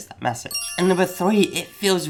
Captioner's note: magical jangling